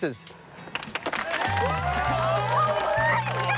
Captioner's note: cheering and applauding